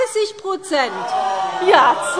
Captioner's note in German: Zurufe CDU und BÜNDNIS 90/DIE GRÜNEN: Oh, oh, oh!